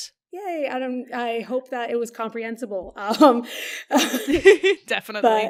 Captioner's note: laughing; laughs